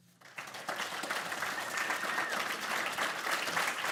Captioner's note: audience applauds